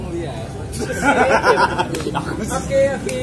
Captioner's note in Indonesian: laugh